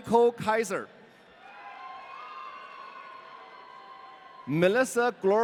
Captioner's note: audience cheering